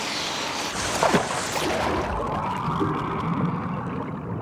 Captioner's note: water splashing